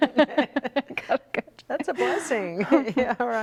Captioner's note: laughing